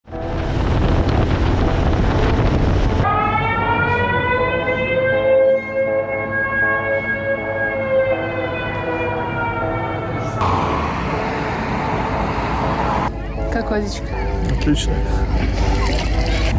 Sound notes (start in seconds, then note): 3.0 siren